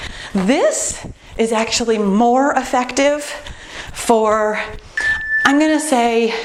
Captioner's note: timer beeps